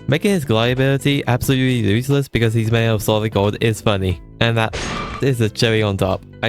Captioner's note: clank sound effect